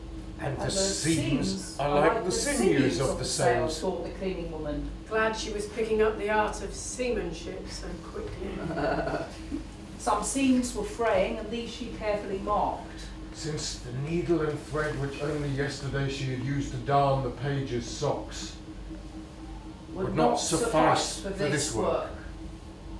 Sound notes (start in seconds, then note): 8.4 laughs